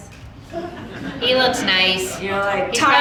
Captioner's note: audience laughing